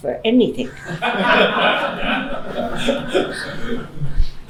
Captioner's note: laughing